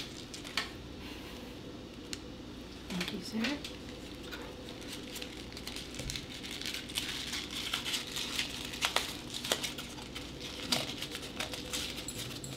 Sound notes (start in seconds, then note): 6.0 paper crumpling